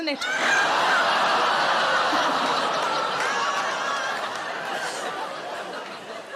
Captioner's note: audience laughing and groaning